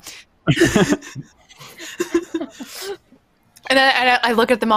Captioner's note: chuckling